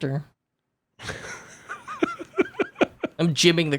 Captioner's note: laughing